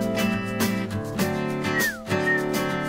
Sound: whistle

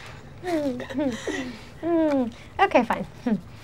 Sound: girls chuckle

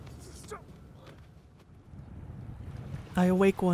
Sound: waves crashing

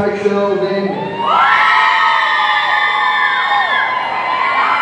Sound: audience cheering

